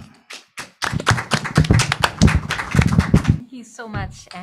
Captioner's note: applause